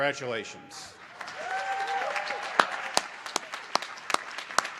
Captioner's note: applause